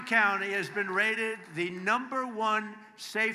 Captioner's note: applause